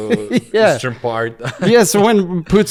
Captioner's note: laughs